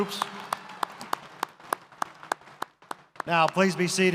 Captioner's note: audience applauds